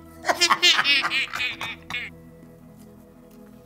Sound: cackling

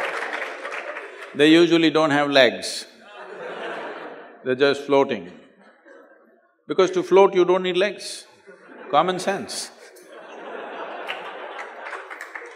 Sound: laughter; laugh

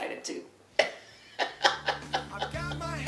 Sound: laughing

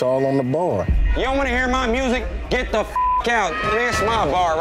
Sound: beep

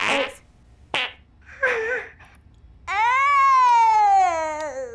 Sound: baby passes wind

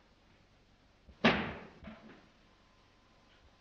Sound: bang

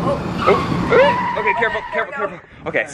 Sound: tires screeching

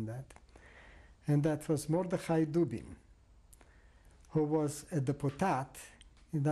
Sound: non-english

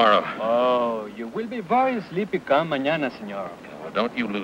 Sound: speaks in foreign language

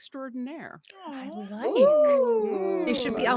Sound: people gasping

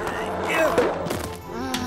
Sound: pops

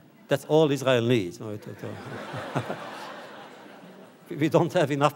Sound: audience laughter

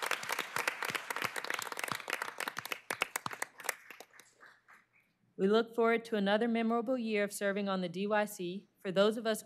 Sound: applause

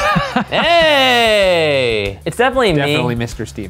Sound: laughs

